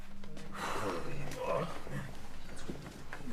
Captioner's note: sighs